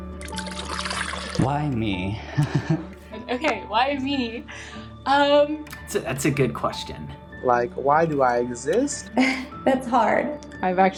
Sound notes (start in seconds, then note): 0.1 water pouring; 2.3 laughs